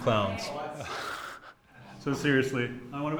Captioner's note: class moaning